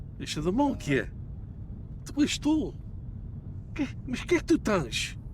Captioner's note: group speaking in foreign language